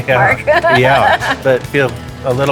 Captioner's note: laughter